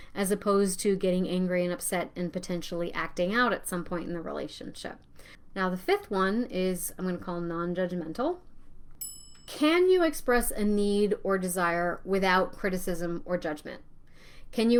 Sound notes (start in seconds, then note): 9.0 bell rings